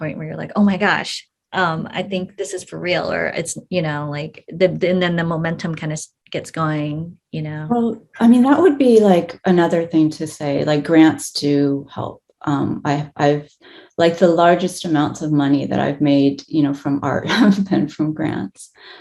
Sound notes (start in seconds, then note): none